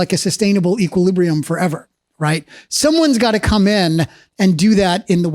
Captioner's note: none